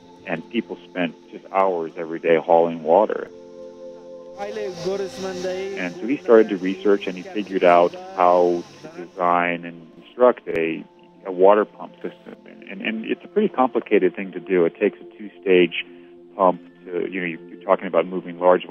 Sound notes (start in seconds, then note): 4.6 speaking foreign language